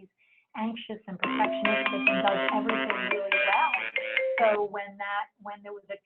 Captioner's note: phone chiming